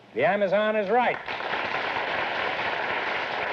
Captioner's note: applause